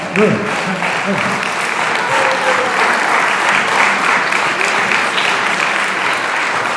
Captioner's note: applause